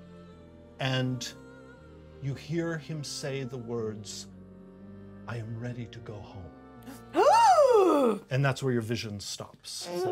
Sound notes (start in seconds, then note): none